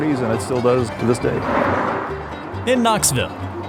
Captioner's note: car drives